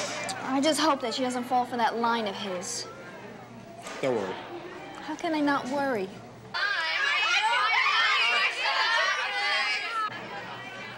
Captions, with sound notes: I just hope that she doesn't fall for that line of his. - Don't worry. - How can I not worry? (kids chatter)